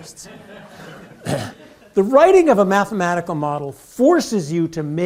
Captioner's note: laugh